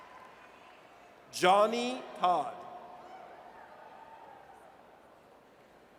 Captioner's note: audience cheers